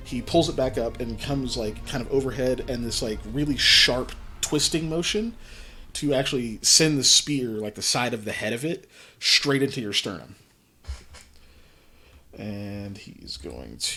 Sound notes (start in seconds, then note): none